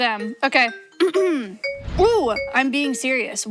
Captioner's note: clears throat